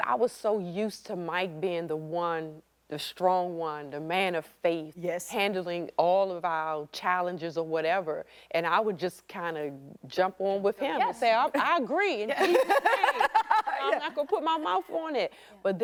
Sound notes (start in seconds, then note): 12.3 laughter